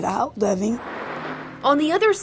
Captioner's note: car drives